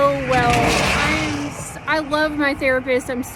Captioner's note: rattling noise